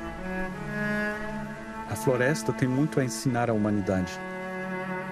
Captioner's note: non-english speech